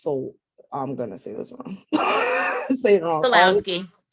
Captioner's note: laughs